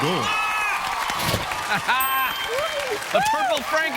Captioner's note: cheers and applause